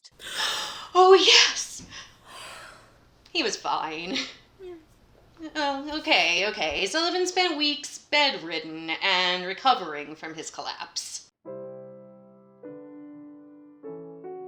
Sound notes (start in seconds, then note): 3.2 cheerily; 4.6 murmurs of agreement